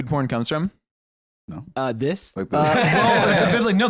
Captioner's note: laughs